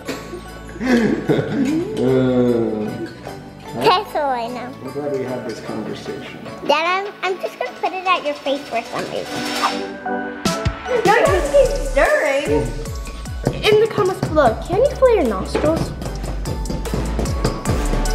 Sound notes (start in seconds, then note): 0.7 laughter; 9.1 whooshing